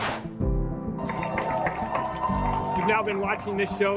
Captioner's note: cheering